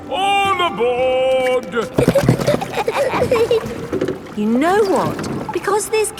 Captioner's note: giggling